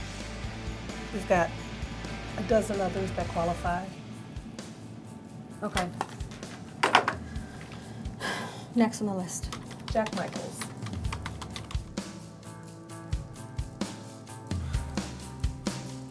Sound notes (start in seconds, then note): 6.7 phone clicks; 7.2 sighs; 9.4 keyboard clacking; 11.7 mid-tempo rock music